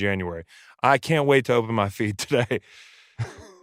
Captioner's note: laughs